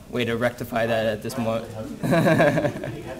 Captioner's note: laughs